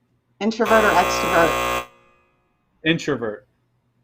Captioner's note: buzzer ringing